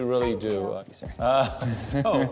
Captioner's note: laughs